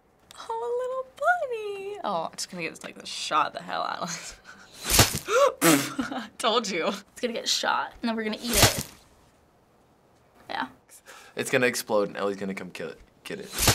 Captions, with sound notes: Oh, a little bunny! Oh, it's gonna get shot the hell out of it. (gasps and splutters) I told you. - It's gonna get shot and then we're gonna eat it. Yeah. - It's gonna explode now and Ellie's gonna come get it.